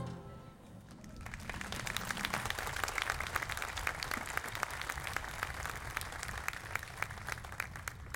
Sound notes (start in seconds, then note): 2.8 audience applauding